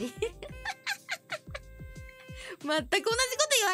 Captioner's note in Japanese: 乾いた笑い